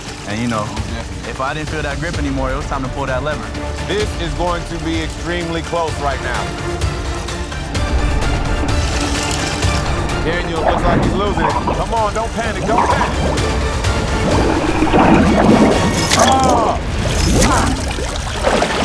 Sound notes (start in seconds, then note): 6.5 intense music; 13.4 water burbling